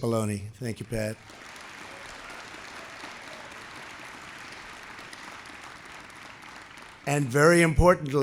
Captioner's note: applause